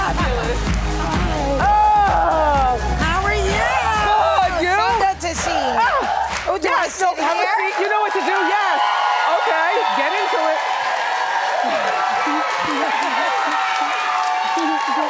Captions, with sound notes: Fabulous. Oh. How are you? Good, you? So good to see you. (audience cheering) Have a seat you know what to do, yes. (audience applauding and cheering) Okay, get into it. (laughing)